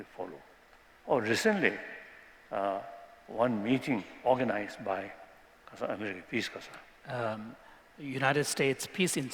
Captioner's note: non-english